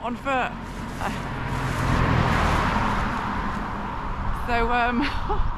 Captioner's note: car